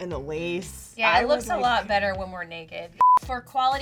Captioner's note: beeping